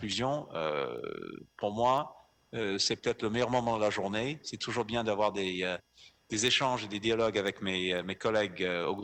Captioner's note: in French